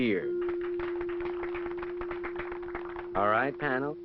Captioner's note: audience clapping